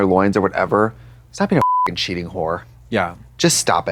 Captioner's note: beep